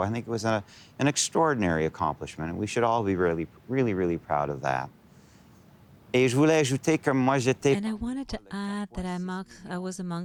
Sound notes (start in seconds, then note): 5.0 speaking French